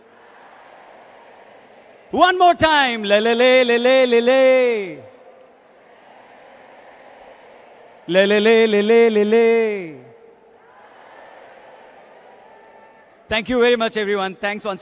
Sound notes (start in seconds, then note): 4.8 audio stops abruptly; 10.6 cheering/Applause